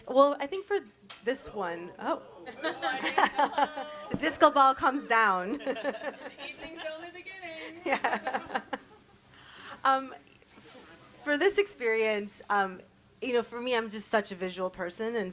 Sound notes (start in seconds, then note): 1.6 audience murmurs; 5.8 panelists laugh; 9.6 laughs